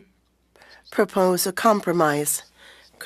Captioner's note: speaking French